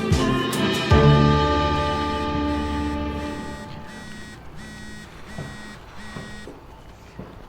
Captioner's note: cell phone vibrating